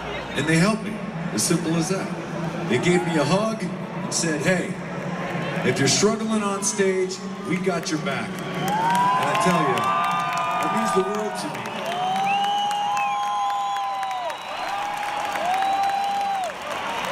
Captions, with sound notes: and they helped me. As simple as that. They gave me a hug and said, "Hey, if you're struggling on stage, we got your back." And I tell you, it means the world to me. (audience cheering)